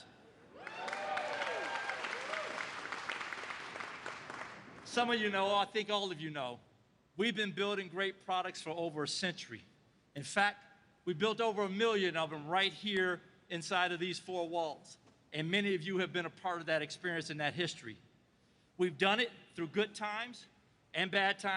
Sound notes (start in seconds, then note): 5.0 applause